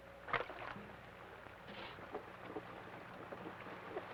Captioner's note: water splashes